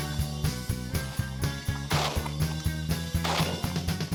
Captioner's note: gun shots